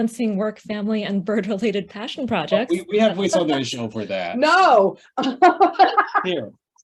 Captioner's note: laughs